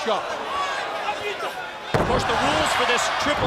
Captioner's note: crowd chatter